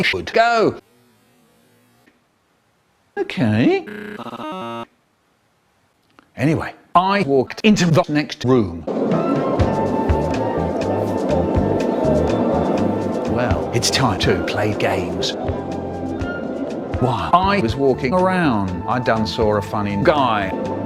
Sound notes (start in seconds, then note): 3.8 glitching noises